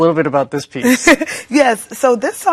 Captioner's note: laughs